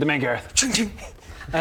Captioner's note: shing shing